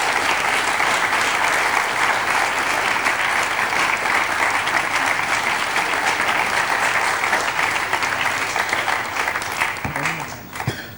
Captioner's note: all clap